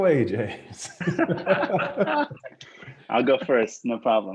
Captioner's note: everyone laughing